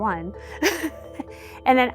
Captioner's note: laughter